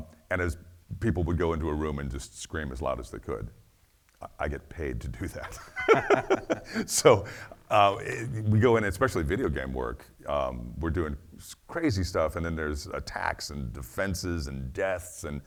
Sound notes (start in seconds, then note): 5.3 laughing